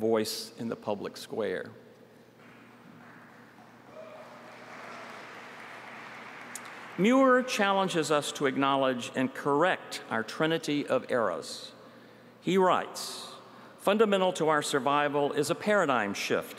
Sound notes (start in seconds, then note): 8.1 applause